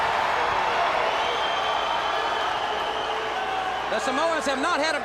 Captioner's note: crowd cheering